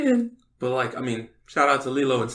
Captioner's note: laughs